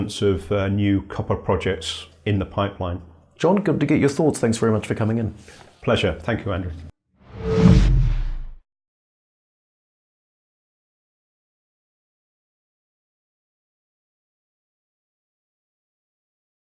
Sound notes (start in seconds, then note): 7.2 whoosh